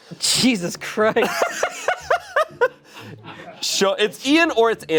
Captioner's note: laughs